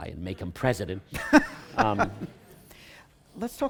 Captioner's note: laughter